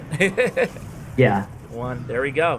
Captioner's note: laughs